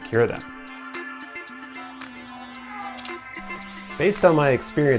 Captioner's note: meow